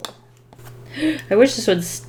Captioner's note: deep inhale